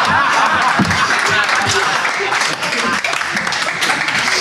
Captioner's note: Sidemen laugh; audience applauds